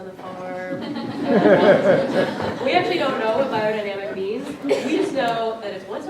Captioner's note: audience Laughing